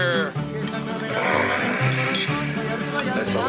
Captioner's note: Charlie grunts